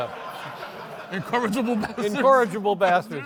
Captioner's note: laughs